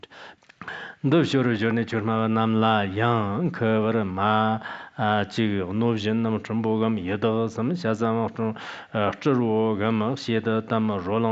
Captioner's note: giving oral transmission in Tibetan